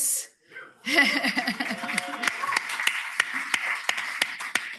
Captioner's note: cheering